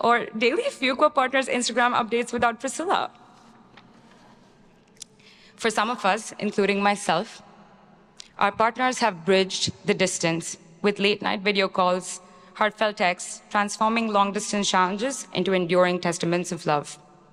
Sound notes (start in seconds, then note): none